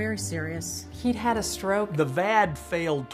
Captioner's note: voiceover